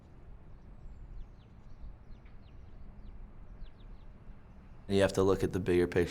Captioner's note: bird chirping